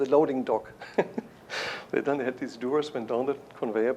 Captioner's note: chuckles